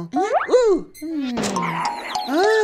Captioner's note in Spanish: Sonido golpe / mono